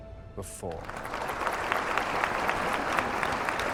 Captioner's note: audience applauding